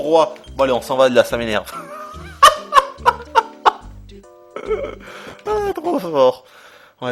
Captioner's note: laughter